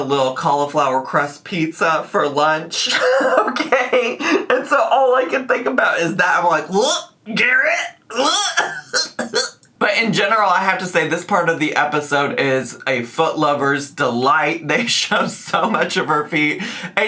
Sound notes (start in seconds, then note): 6.7 retching